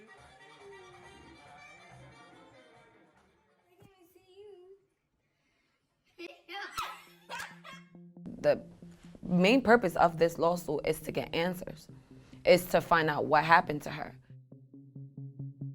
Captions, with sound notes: (laughing) Is to find out what happened to her.